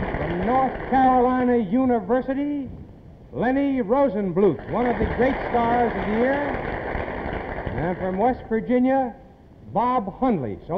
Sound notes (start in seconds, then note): 4.5 applause